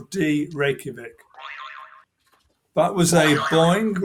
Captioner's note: boing